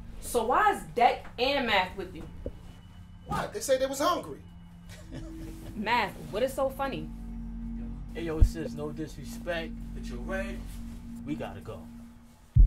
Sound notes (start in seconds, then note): 4.8 laughing